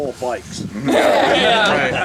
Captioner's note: laughs